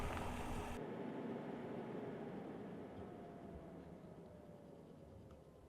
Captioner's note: engine whirring off